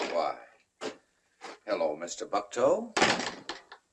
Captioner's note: door thuds